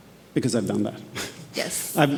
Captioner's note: laughs